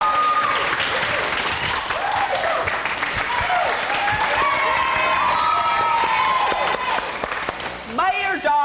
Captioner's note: applause